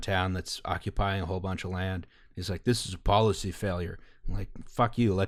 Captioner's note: stupid guy voice